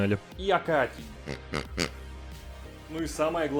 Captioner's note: pig noises